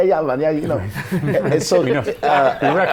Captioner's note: laughter